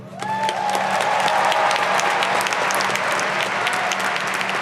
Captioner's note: audience applauding